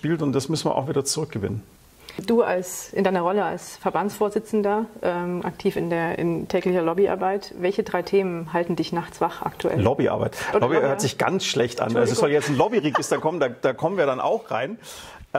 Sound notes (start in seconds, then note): 12.4 laughter